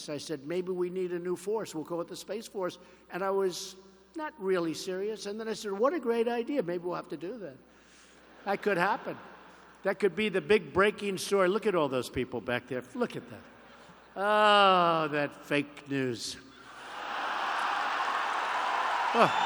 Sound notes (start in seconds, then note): 8.4 laughter; 16.7 laughter and applause